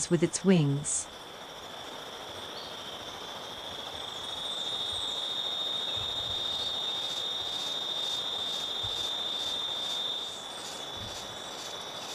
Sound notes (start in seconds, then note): 1.8 multiple bird sounds